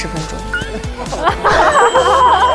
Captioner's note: bursts into laughter